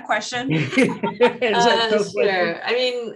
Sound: group laughing

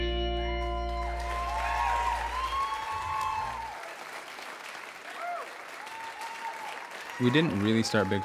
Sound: applause

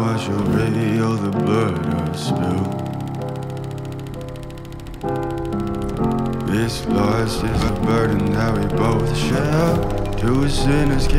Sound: projector sounds

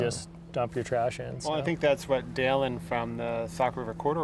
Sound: none

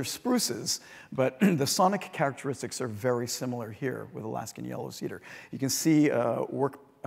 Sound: cough

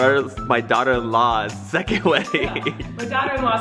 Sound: laughs

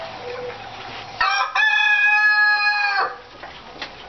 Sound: crowing

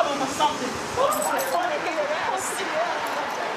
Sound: indistinct chatter

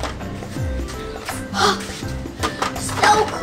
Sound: gasps

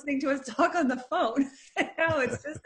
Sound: laughing

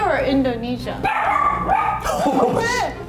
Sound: bark bark

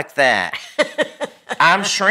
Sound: laughing

